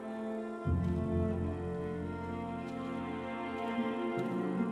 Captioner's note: grass crunching